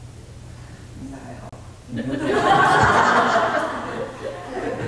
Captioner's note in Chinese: 眾笑